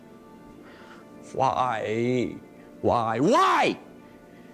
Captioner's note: sighs